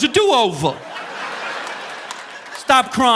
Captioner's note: audience laughing